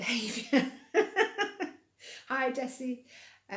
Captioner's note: laughing